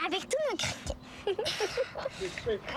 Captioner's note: rires